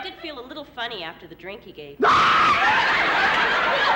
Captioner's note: screaming